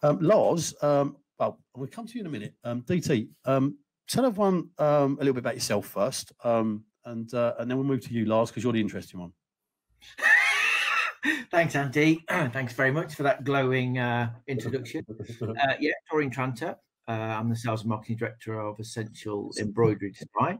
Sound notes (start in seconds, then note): 10.1 laughs